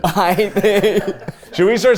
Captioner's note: everyone laughs